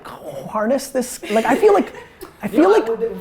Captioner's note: laughing